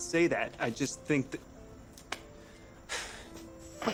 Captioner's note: sighs